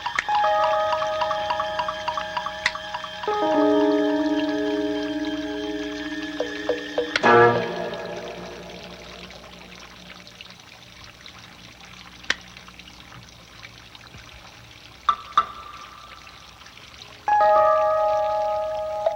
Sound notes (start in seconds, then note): 2.6 finger snaps; 7.0 hands clapping